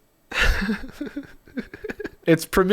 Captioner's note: giggles